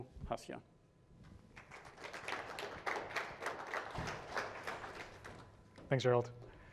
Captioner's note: applause